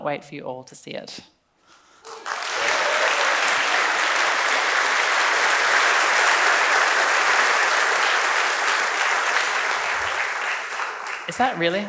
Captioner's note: claps